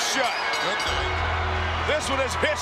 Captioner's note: bell tolls